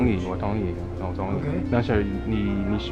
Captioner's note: mandarin